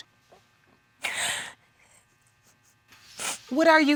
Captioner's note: gasping